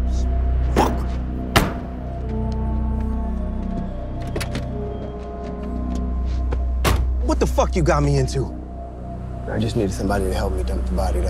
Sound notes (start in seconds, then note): 1.5 hood slams; 4.2 door clicks; 6.8 door thuds